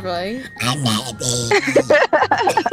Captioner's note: monster voice